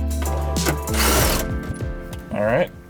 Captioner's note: chill music; tool whirs